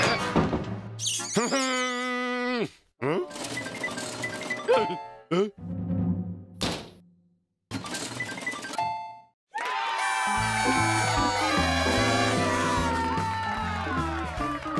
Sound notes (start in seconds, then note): 9.5 cheers and applause